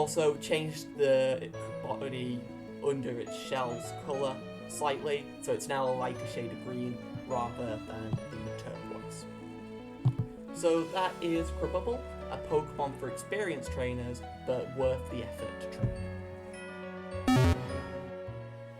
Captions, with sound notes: I also change the body under its shells colour slightly so it is know a lighter shade of green rather than turquoise. So that is Crabubble. A Pokémon for experienced trainers but worth the effort to train. (PokéDex Closes)